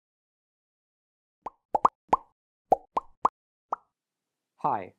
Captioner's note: popping Sounds